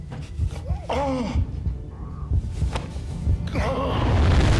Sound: gasping

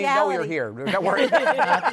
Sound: laughter

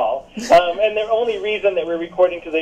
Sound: laughs

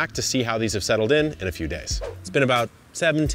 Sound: air whooshing

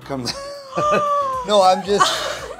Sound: gasping

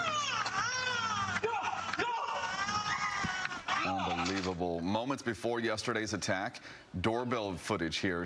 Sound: screaming

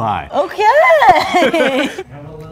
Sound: laughing; man laughing

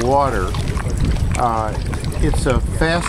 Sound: slushing water

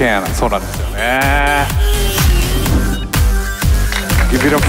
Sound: speaking Japanese

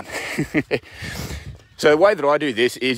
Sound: laughs

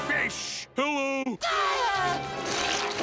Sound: screaming

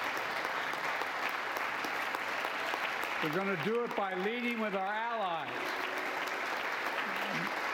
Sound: applause

